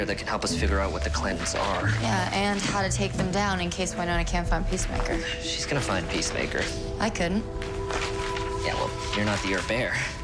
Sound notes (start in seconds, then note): none